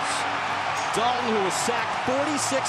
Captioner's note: cheering